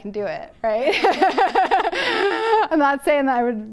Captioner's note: laughter